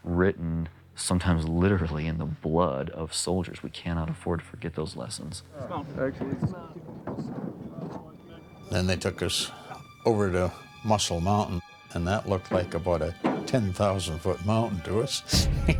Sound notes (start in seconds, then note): 5.8 voiceover; 8.9 voiceover; 15.6 laughs